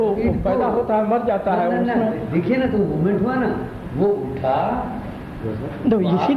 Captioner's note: discussion in Hindi